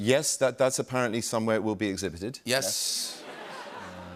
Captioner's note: laughter